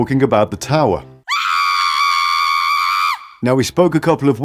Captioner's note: scream!!